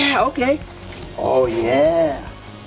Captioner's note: ding